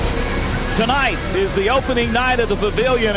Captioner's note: voiceover